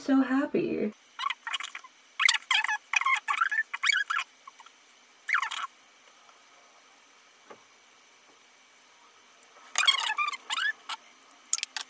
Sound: random sped up babbling

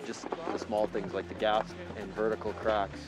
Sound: voiceover

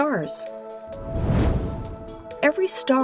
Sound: whoosh

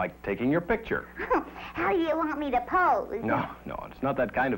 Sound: laughing

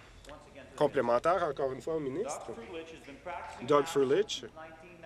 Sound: applause

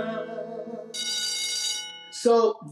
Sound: school bell rings

